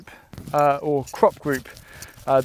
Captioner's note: dirt clanging against metal